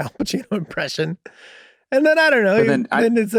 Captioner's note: Charlie laughing nostalgically